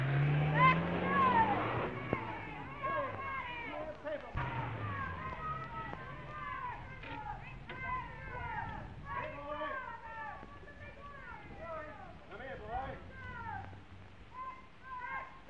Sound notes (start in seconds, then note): 0.1 car accelerating; 5.5 crowd shouting